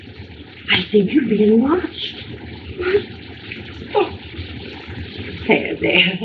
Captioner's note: moans